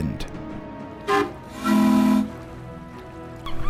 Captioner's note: tug boats whistle to each other; seagulls squawk as water laps at the shore. Tug boats continue to whistle